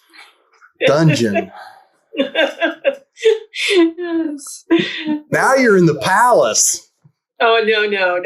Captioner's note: laughs